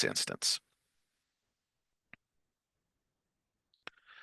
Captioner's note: silence